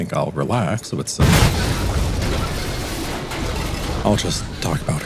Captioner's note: sounds of a relaxing head-on train collision